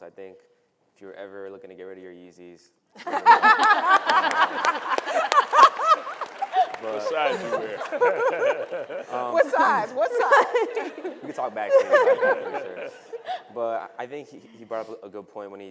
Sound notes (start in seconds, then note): 3.3 audience and panelists laughing; 12.3 voice drowns by laughing panelists